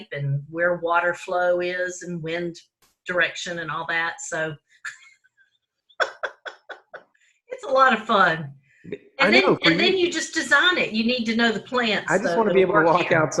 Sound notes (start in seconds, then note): 6.0 both laugh